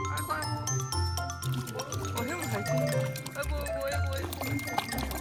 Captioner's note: splash splash splash